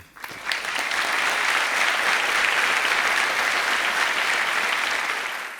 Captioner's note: applause